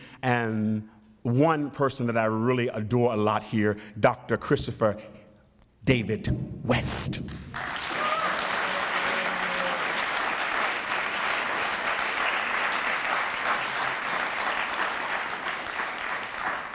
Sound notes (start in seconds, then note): 7.4 applause